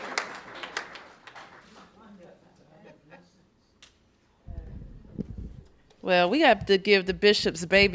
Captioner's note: applause